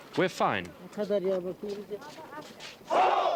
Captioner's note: speaks foreign language